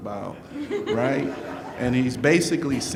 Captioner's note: laughing